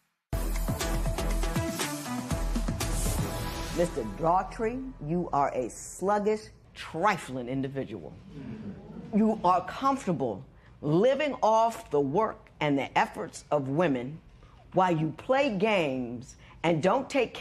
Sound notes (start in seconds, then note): none